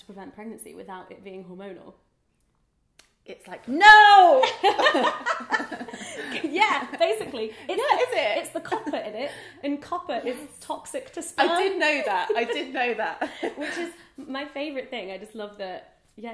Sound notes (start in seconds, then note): 4.4 laughs